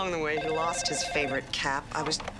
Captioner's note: phone rings